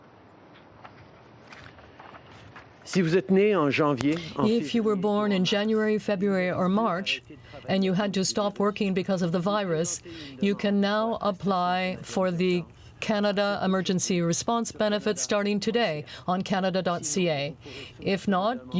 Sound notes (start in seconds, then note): 9.7 speaking French